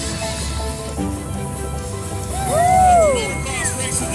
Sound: scattered cheering

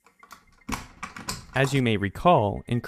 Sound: lock clinking

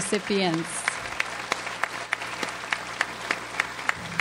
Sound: audience applauds

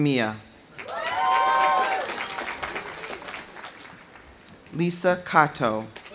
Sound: audience cheering; audience applauding

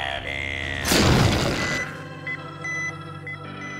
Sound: beeping

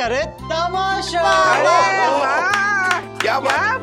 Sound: cheering

